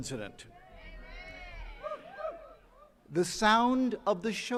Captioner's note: attendees cheering